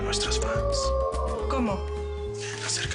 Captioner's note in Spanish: Se oyen aullidos